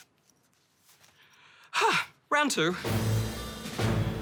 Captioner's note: gasps